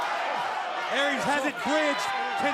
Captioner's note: crowd cheering